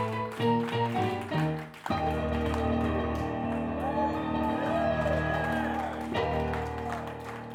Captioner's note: bright ragtime piano music; group cheering